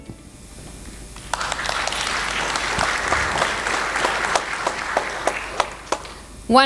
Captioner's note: applause